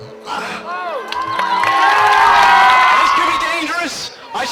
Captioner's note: audience cheering and applauding